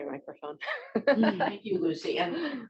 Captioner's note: laughs